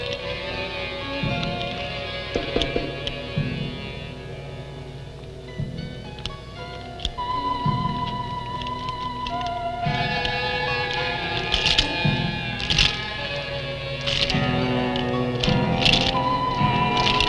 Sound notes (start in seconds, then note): 11.8 chains clinking